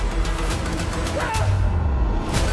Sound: screams

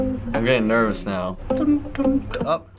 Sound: humming along

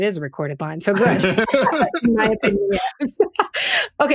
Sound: laughing

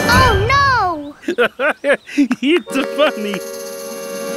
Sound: laughing

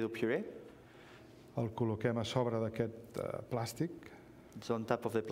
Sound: speaking catalan

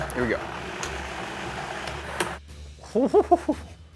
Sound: processor whirring

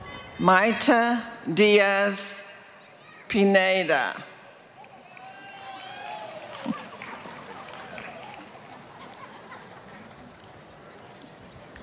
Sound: applause

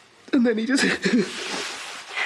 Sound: Aaron sobs

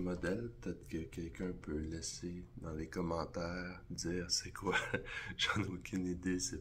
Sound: laugh

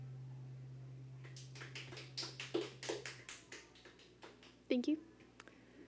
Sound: background clapping

